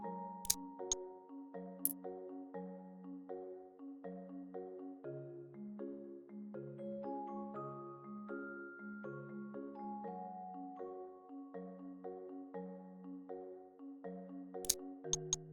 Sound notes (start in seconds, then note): 0.8 click sound; 12.3 calm music; 15.1 click sound